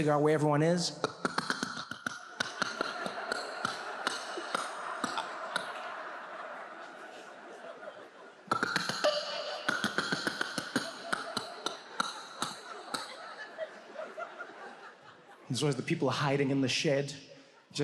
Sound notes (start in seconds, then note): 1.0 imitating alien sound; 2.6 audience laughs; 8.4 continues imitating alien sound; 11.7 audience laughs